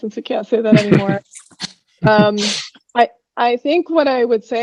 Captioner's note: laughs